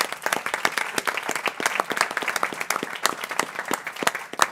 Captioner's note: people clapping